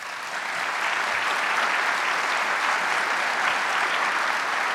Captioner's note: audience applauding